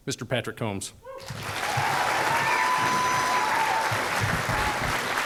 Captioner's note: students clapping